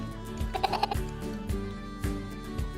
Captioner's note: playful laughing; lighthearted music